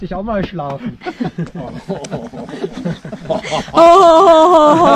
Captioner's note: laughter